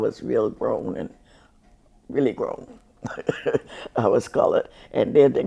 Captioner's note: chuckles